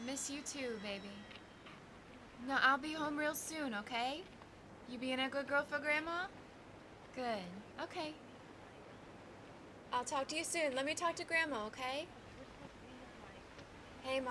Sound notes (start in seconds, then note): none